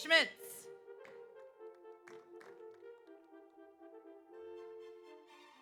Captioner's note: audience applauds